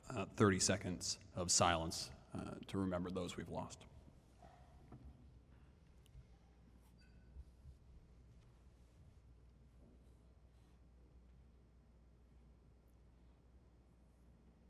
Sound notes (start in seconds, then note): 12.1 moment of silence